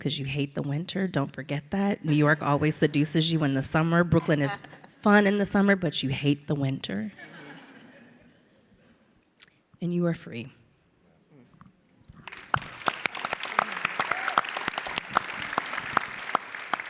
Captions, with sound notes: 'cause you hate the winter, don't forget that, New York always seduces you in the summer, Brooklyn is fun in the summer, but you hate the winter. (audience laughs) And you are free. (audience clapping)